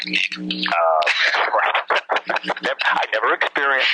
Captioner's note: laughing